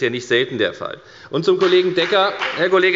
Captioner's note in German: Beifall bei der FDP